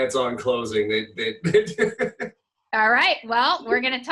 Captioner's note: laughing